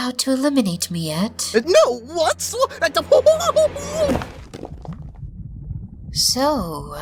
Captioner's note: distress sounds